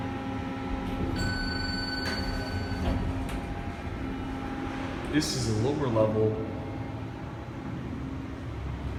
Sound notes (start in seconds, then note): 1.0 elevator Chimes